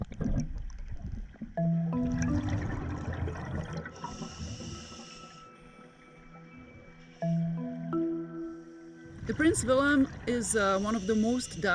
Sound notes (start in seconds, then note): 1.6 playful music; 1.9 underwater bubbling noise; 6.2 diver breathing